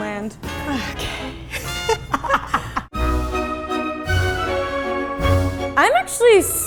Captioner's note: laughing